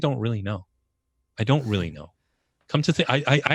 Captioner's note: laughs